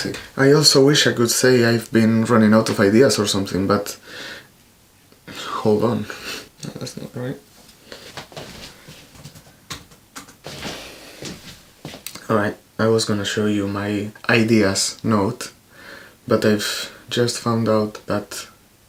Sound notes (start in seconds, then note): 9.7 typing in the computer